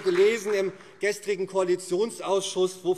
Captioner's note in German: Beifall SPD